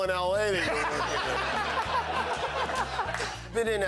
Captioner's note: laughter